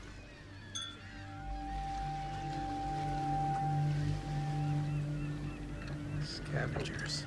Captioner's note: ominous music; glasses clink